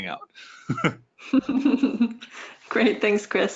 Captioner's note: laughing